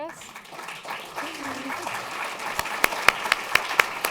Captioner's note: applause